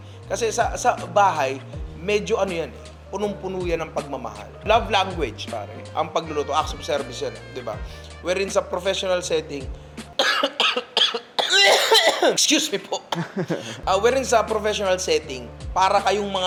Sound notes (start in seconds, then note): 10.2 coughs